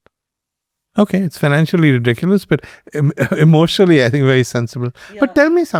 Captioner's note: laughs